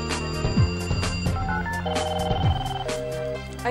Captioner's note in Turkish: Telefon çalıyor